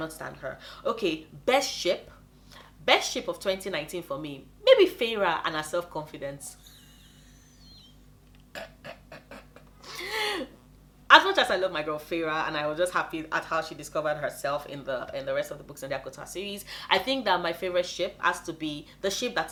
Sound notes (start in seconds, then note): 6.5 laughs